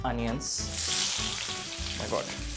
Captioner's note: sizzle sound